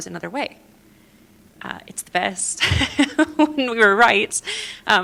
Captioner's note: laughter